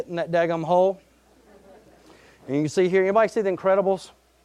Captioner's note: audience laughing